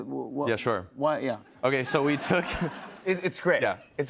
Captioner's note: laughter